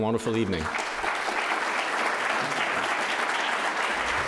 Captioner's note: crowd applauding